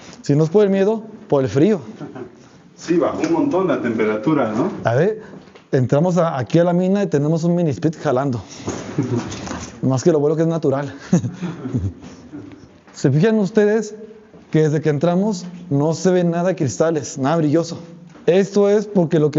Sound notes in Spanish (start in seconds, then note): 10.9 risas